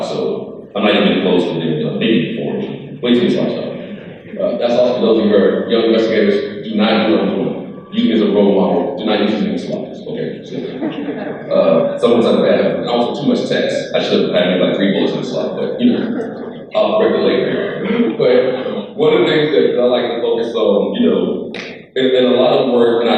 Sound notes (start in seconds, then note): 11.1 crowd laughing